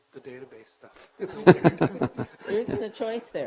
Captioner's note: giggling lightly